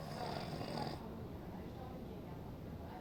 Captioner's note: snores